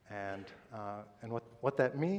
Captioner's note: none